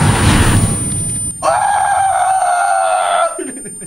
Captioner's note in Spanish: Sorprendido